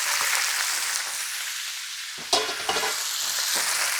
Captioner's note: oil sizzling